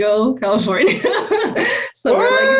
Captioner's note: laughs